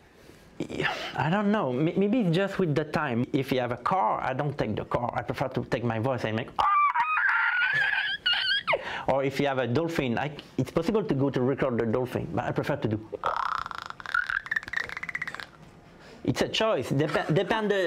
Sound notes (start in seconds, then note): 6.3 making squeaking noise; 13.1 imitating dolphin